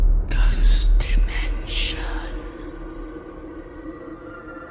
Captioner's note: ghostly Voice